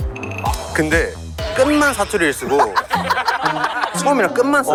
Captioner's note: fake Dialect